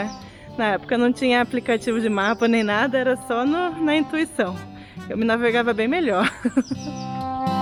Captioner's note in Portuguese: risada